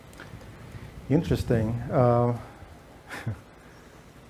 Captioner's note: chuckles